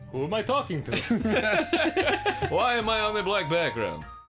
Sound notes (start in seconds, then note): 0.9 laughter